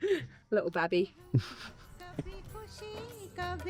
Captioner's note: laughs